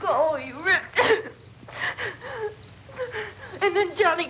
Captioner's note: sobbing breathlessly